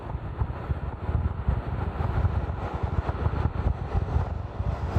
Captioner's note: wind noise with open window